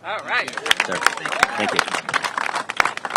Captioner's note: applause